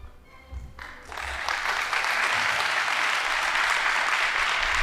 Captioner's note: audience applauding